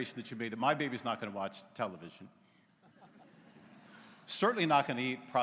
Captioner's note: laughter�